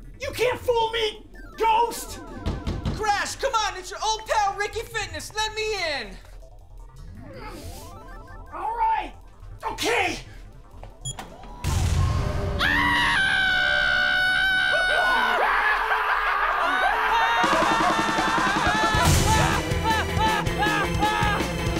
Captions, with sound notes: you can't fool me ghost Crash come on it's your old pal Ricky Fitness let me in. Alright. okay. (beep) (Screaming) (all screaming)